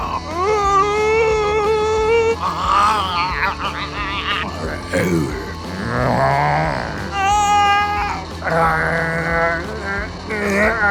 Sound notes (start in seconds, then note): 0.0 Laurene groans; 0.7 Adam groans; 2.3 Helene groans; 4.4 groans; 5.5 Mark groans; 7.1 Melanie groans; 8.3 Todd groans